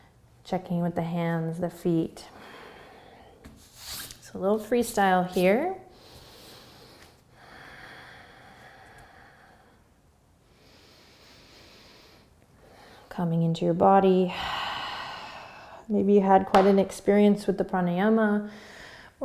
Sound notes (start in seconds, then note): 5.9 breathing; 14.3 exhaling